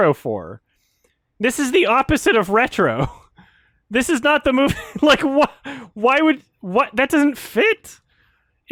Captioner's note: chuckles